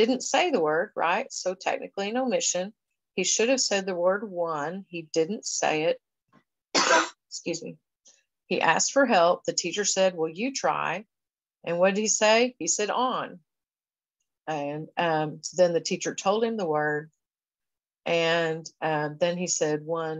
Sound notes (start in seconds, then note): 6.7 coughs